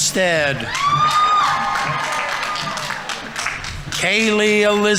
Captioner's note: audience members cheering; audience applauding